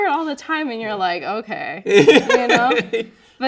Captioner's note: laughing